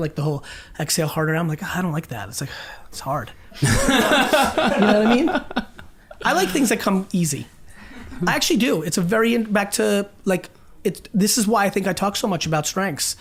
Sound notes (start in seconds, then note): 2.5 exhales; 3.5 group laughs